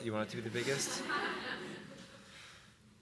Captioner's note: laughter